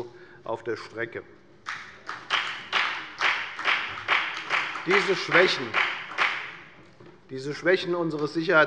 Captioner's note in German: Beifall bei der FDP